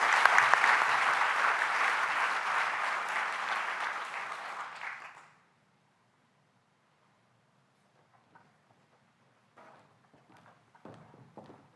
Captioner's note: applause